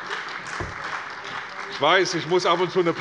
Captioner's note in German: Beifall bei der CDU und dem BÜNDNIS 90/DIE GRÜNEN